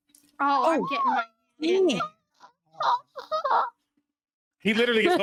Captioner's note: squealing